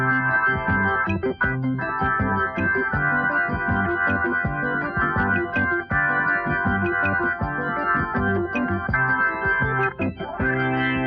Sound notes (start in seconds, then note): none